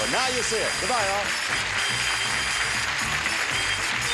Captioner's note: audience applauds